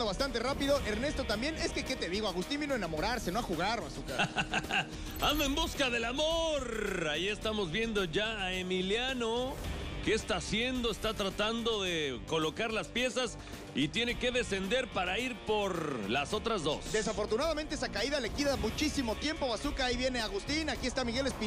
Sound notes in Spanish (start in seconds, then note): 4.1 ríe